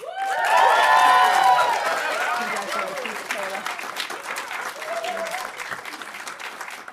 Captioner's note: audience applauding